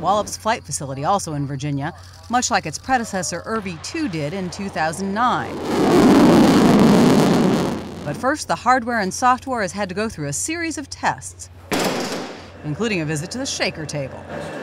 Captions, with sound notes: at Wallops Flight Facility, also in Virginia, much like its predecessor, IRVE-2 did in 2009. [ SOUNDING ROCKET LAUNCH ] But first, the hardware and software has had to go through a series of tests, including a visit to the shaker table.